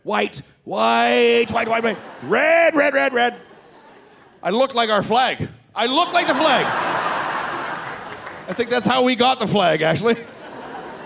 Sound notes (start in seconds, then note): 5.9 audience laughing